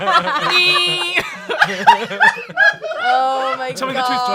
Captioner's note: everyone laughing